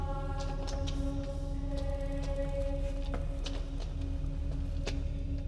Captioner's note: people chanting in foreign language